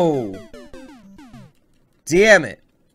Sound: death audio

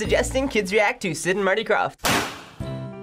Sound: confetti pops; playful intro

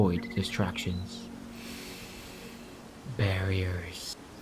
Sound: inhale

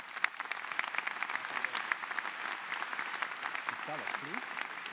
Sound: applause

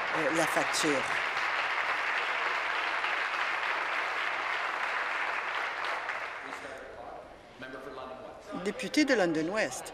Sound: applause

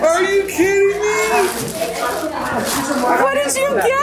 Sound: group chuckles and chatters

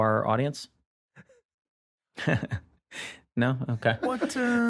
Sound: laughs

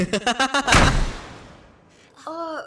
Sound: maniacal laughter; door slams

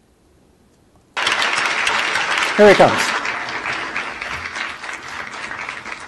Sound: audience applause

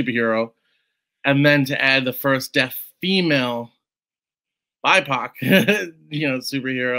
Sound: laughs

